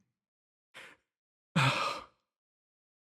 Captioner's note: sigh